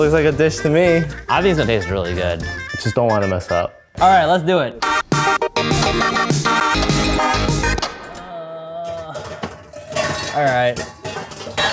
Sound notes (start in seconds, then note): 5.0 upbeat electronic music; 8.2 grunting